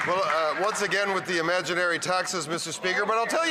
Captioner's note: some Applause